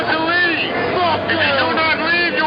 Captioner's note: voiceover